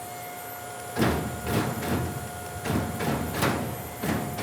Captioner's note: machine bangs